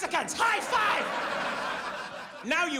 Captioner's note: audience laughs